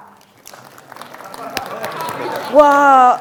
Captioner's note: audience clapping